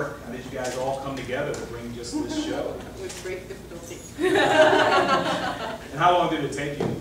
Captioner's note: laughter